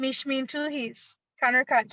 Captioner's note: speaking in a foreign language